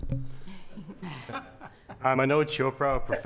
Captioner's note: laughing